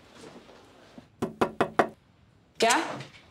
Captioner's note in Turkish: Kapı vuruluyor